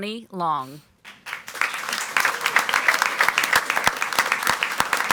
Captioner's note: audience applauds